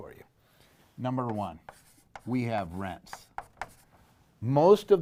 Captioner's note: light knocking